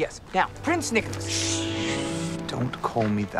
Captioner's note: Nicolas hushes